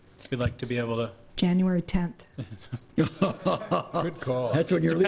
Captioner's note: laughing